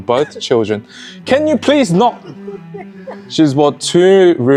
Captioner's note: cough